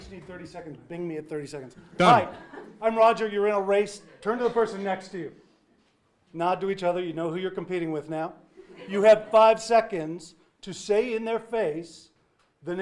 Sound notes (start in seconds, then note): 8.6 audience laughing